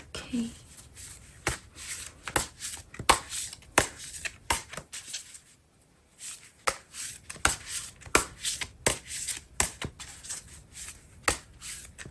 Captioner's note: drawing cards